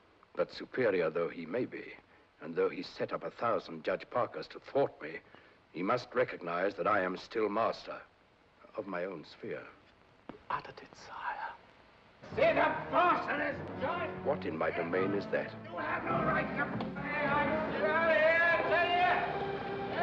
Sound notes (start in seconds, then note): 13.8 yelling